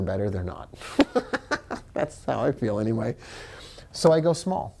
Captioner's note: laughs